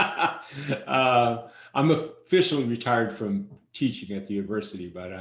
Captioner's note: laughs